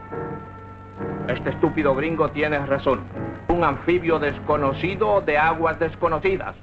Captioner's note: Colonel Cabeza speaking in Spanish; General Tostada speaking in Spanish